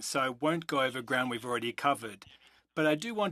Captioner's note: speaking French